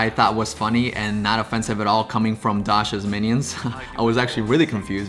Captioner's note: laughs